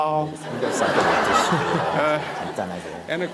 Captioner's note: Sunim/Audience Laughter